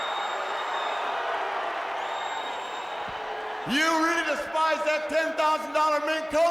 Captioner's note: crowd cheering